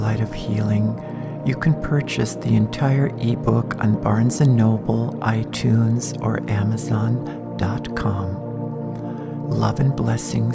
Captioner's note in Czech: v angličtině